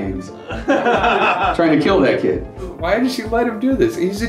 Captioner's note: laughter